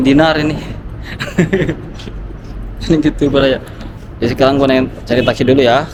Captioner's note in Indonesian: tertawa